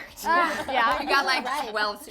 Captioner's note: laughing